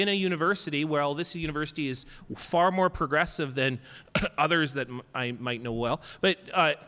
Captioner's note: coughs